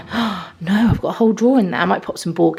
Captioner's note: gasps